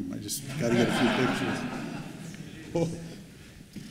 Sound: laughs

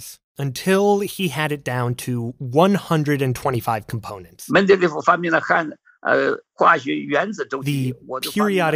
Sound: speaking Mandarin

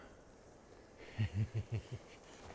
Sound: sinister chuckle

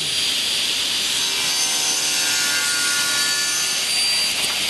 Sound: saw noise

